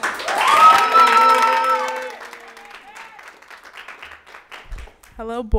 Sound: people cheer; audience applauds

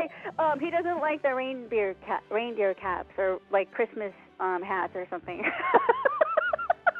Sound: laughing

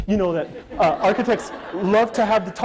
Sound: audience laughter

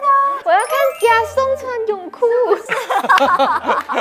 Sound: excited

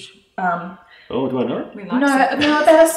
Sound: laughs

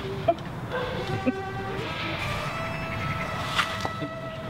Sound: laughs

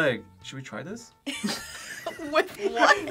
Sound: both laugh; laughs

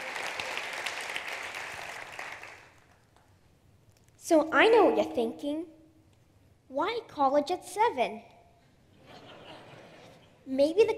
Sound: applause; laughter

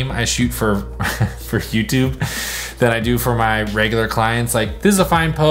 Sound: laughs

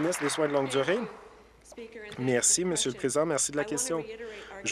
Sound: applause

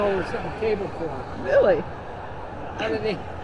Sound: static noise

